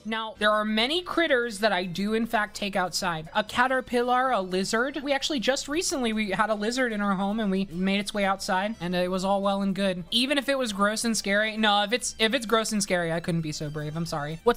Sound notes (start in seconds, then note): none